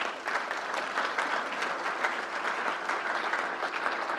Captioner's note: crowd applauds